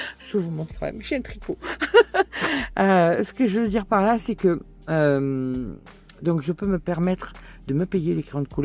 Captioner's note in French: rires